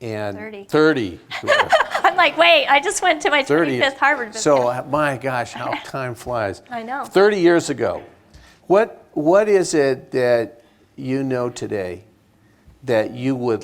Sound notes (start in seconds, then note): 1.3 laughs